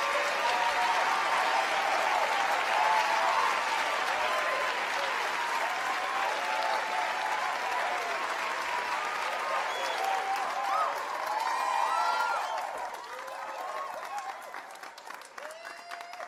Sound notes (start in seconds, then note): 2.8 applause; 6.7 cheering